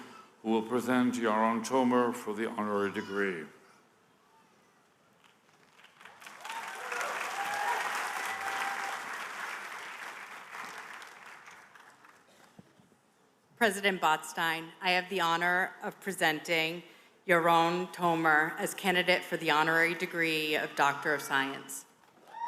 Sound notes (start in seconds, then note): 8.1 applause